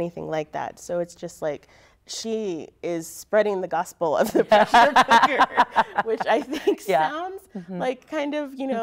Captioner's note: laughter